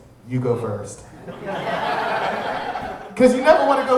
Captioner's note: audience laughing